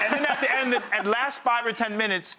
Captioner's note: crowd laughing